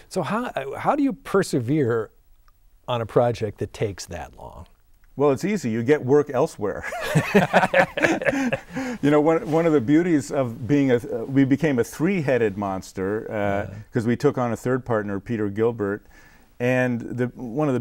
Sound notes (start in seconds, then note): 6.9 laughing